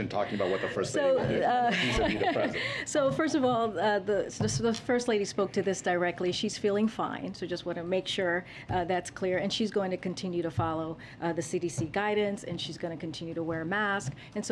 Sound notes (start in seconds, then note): 3.4 laughs